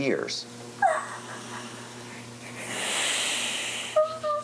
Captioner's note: crying